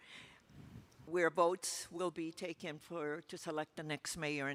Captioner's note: microphone rustling